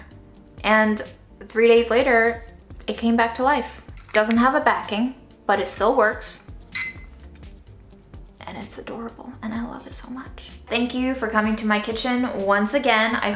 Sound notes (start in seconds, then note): 6.7 timer beeping